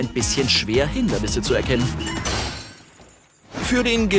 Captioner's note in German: Krachen